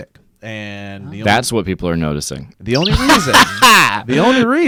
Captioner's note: laughs